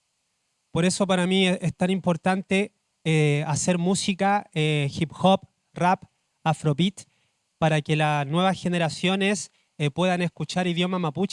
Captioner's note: speaking Spanish